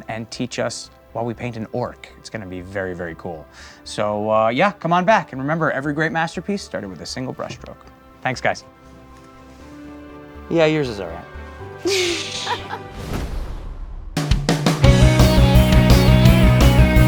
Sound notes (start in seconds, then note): 11.8 laughter; 14.6 bright music